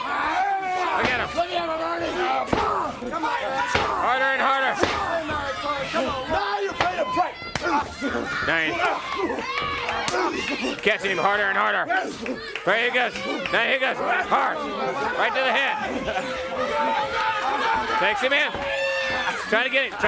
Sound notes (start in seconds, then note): 0.0 crowd chatter; 11.8 crowd cheering